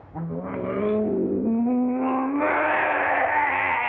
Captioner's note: growling